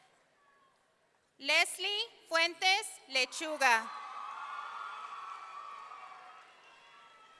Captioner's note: audience cheering